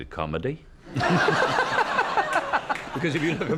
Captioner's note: laughter